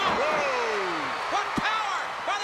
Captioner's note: crowd cheering